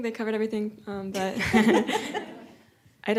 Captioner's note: laughter